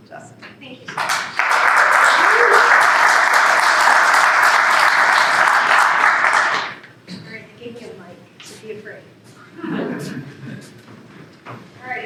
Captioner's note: applause